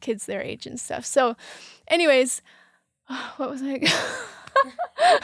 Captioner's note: laughs